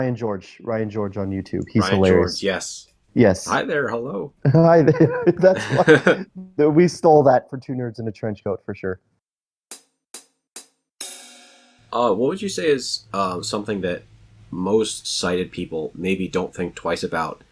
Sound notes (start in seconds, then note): 5.0 laughs; 11.0 drum transition repeats